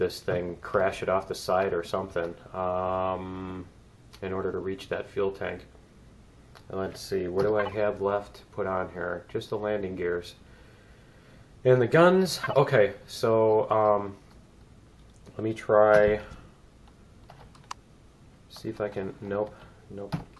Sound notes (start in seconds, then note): 17.3 click